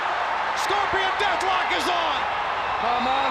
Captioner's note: crowd cheering